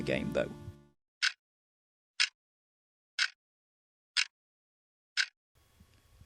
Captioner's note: clock ticking loudly